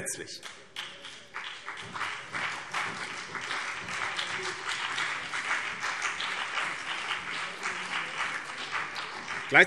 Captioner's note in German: Beifall BÜNDNIS 90/DIE GRÜNEN und vereinzelt CDU